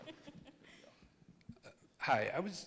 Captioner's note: panelists laugh